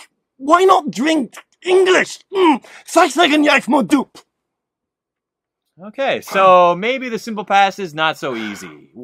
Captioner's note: speaks in Welsh